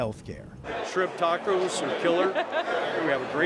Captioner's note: laughter